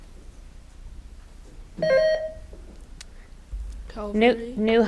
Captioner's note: button buzzing